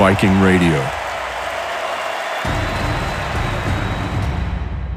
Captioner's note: crowd cheering